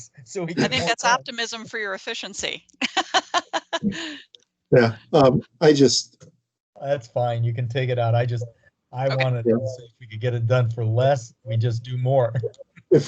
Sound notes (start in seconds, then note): 2.8 laughing